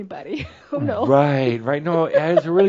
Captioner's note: she giggles